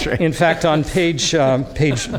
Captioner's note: laughter